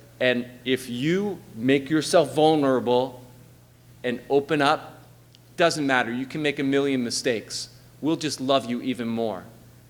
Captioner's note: none